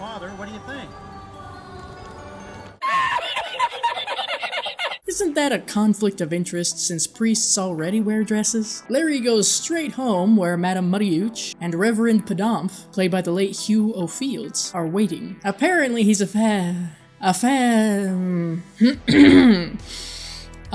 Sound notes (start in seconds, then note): 2.8 crazed laughter; 18.8 clears throat and takes a deep breath